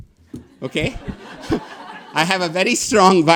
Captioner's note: audience laughing